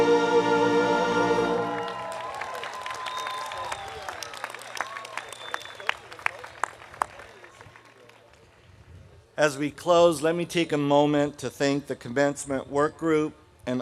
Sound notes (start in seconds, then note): 1.4 audience cheering; 1.6 audience applauding